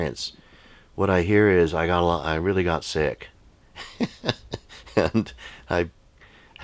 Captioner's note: laughs